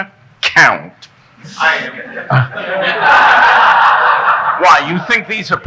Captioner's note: audience laughing